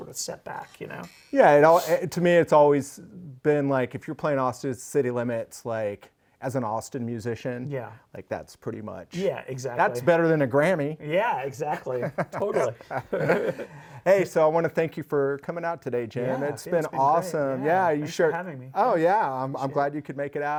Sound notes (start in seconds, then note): 14.4 laughs